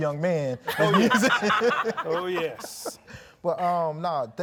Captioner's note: everyone laughing